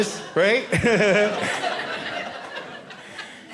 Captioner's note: audience laughing